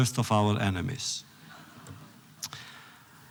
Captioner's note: laughter